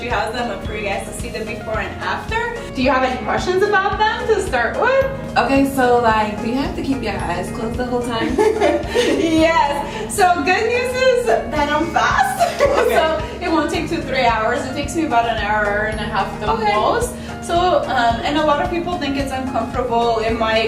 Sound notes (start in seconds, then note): 9.3 laughs